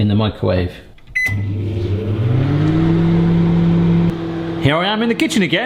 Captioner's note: microwave beeps and whirs